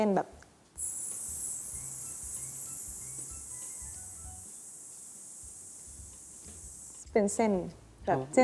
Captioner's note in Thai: ทำเสียงลมเป็นเส้น